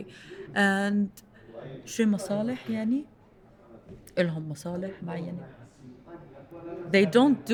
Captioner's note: speaking in foreign language